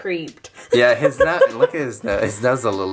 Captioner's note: laughs